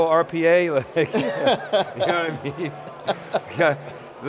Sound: laughter

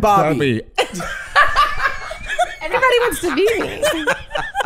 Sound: Hank cackling

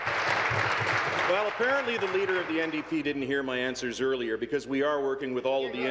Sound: applause

